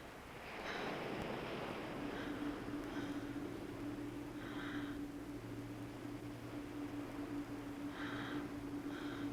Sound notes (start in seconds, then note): 5.6 she breathes deeply